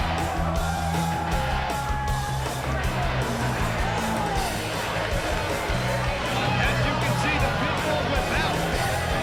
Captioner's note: crowd cheering